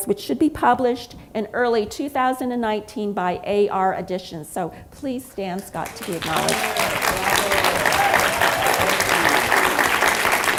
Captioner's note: applause